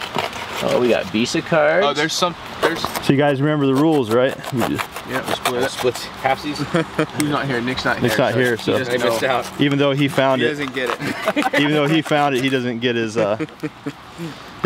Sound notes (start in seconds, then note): 6.5 chuckles; 10.8 laughs